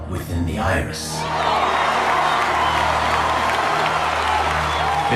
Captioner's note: cheers